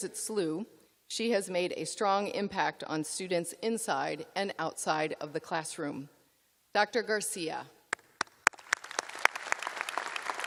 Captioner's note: applause